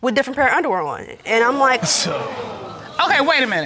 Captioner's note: scoffs